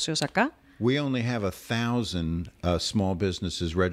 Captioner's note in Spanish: Hablando ingl\s